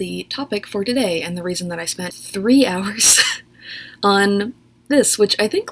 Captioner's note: laughs